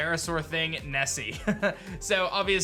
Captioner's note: chuckles